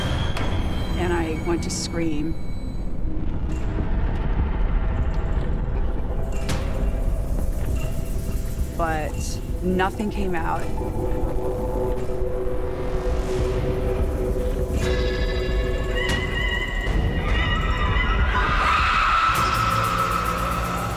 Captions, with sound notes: And I went to scream, but nothing came out. [screams]